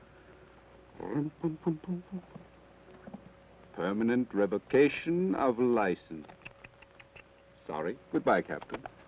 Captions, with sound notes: (hums melodically) "Permanent revocation of license." (tuts) Sorry. Goodbye, Captain.